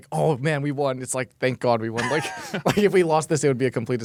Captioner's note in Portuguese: risos